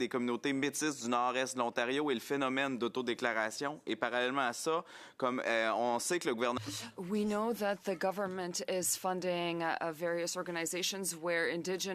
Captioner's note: speaking French